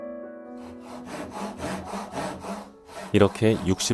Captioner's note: sawing sound